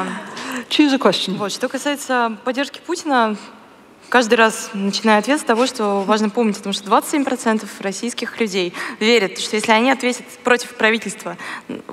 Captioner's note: foreign Language